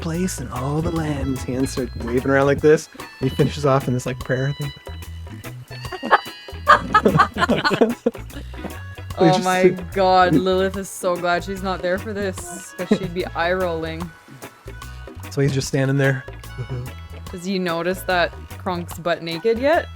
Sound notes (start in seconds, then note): 6.6 laughter